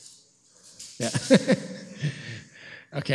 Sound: laughs

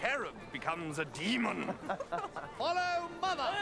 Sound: all chuckle

